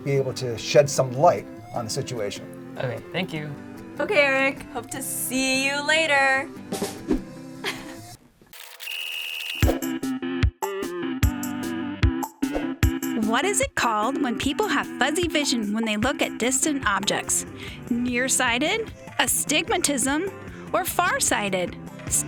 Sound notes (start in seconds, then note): 6.7 drum rimshot; 8.8 whistle blows